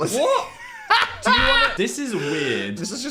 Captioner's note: Dan laughs